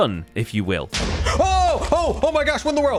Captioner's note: explosion